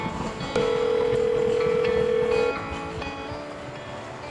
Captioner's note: phone ringing